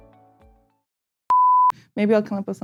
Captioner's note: beep